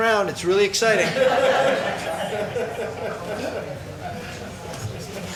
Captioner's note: crowd laughing; laughs